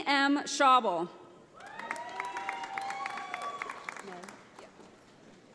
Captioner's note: audience applauding